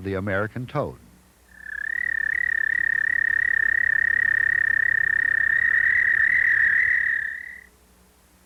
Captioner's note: american toad call